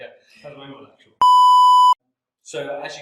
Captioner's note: beeping